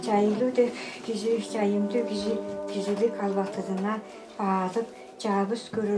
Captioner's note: Speaking in Altai language